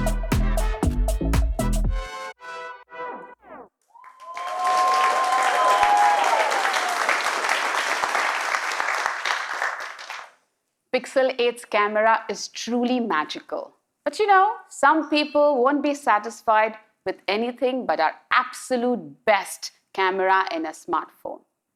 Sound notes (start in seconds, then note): 3.9 audience cheering; 6.9 applause